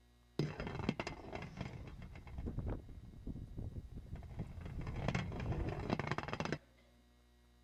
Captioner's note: rattling